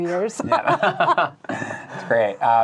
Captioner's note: laughing